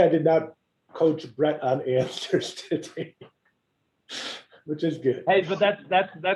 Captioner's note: laugh